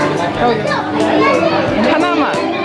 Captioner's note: pleading